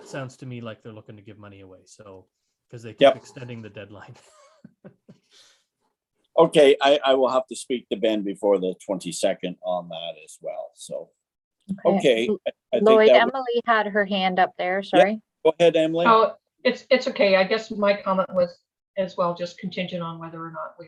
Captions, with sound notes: Sounds to me like they're looking to give money away. So, 'cause they keep-- - Yeah. - Extending the deadline (laughs). - Okay, I will have to speak to Ben before the 22nd on that as well, so, okay, I think-- - Lloyd, Emily had her hand up there, sorry. - Yeah, go ahead Emily. - Oh, it's okay, I guess my comment was as well just contingent on whether or not